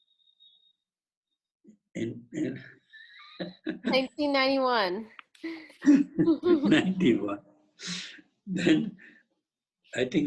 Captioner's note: laughing